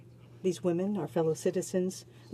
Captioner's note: speaking French